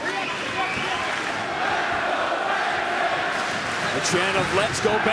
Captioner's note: clapping